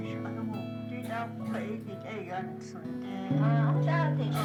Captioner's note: Navajo speaking